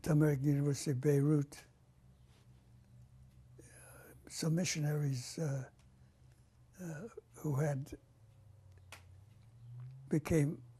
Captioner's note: pauses for 3 seconds